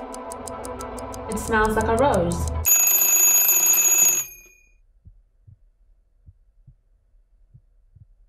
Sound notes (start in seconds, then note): 2.6 clock bell rings